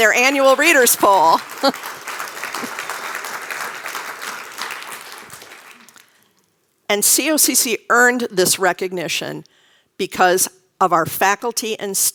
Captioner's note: applause